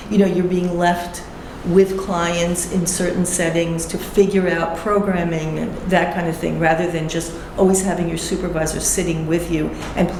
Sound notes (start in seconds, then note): none